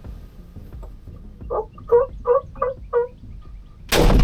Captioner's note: turkey calling; gunshot